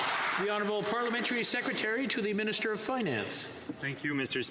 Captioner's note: some Applause